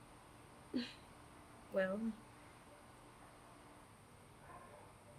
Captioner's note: chuckling